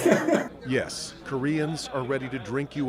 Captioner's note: laughter